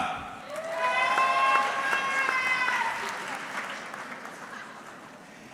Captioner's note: audience cheering